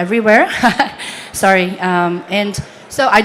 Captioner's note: chuckles